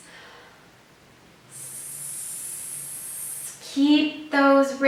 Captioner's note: hissing